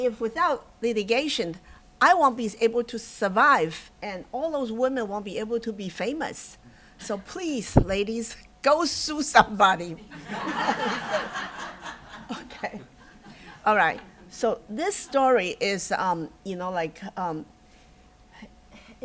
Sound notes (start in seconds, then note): 10.0 laughter